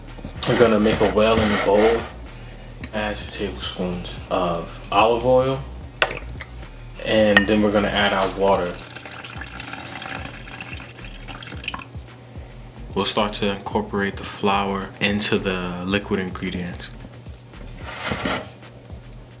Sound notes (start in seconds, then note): 8.0 liquid pours